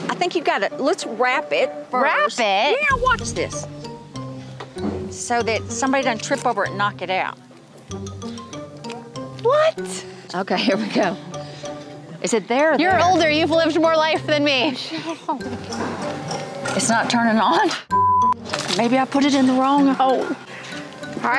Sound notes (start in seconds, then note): 17.9 beep